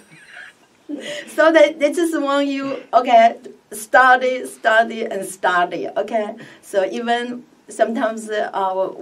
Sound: laughs

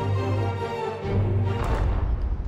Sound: thudding

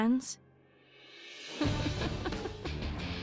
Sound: laughs

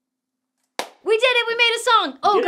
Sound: crisp high five

